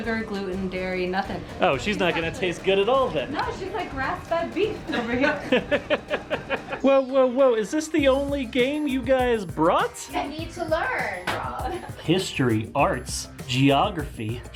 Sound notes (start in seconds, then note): 4.8 laughs